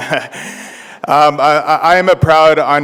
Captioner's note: laughter